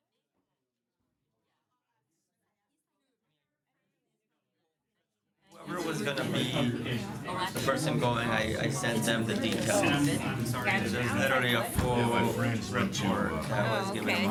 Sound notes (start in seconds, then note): 5.5 background Discussion